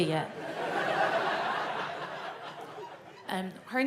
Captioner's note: audience laughs